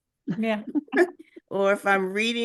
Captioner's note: chuckles